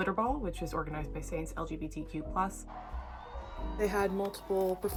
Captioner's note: crowds cheering